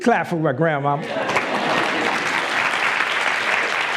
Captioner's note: applause